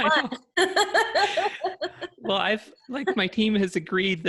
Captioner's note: laughter